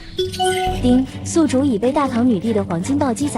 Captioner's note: ding!